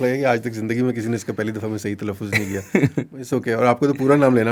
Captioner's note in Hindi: हंसी